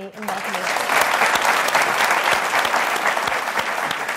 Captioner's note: applause